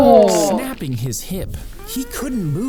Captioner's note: both exclaiming